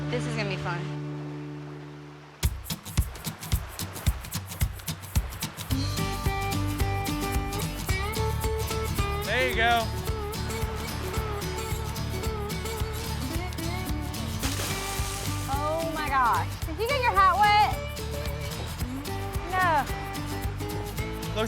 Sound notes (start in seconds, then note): 14.2 splash